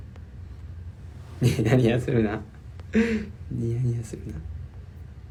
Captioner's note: silly laugh